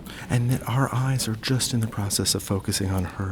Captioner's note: voiceover